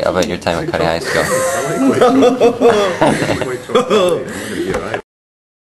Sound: laughs; silence

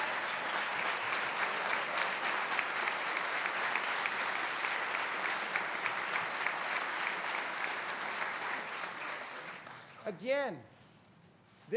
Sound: applause

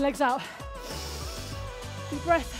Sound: inhaling deeply

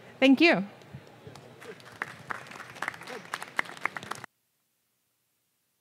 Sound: clapping

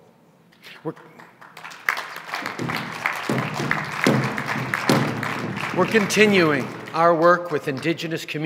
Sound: drumbeats & applause

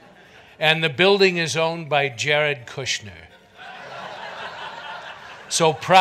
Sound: audience laughter

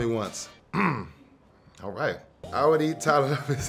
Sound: clearing throat

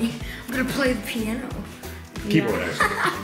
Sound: giggle

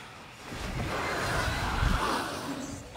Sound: creatures screeching

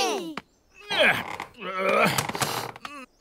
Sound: grunts

